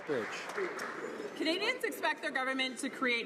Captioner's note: some Applause